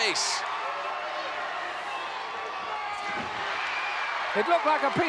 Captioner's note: applause